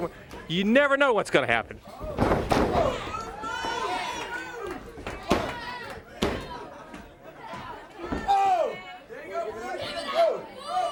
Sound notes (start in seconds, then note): 5.4 crowd chatter